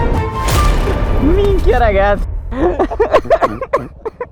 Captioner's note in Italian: risate